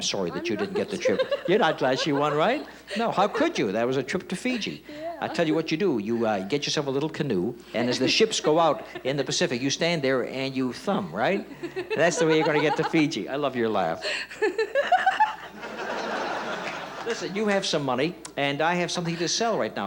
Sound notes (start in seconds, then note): 11.5 laughing; 13.8 laughs; 16.1 audience laughs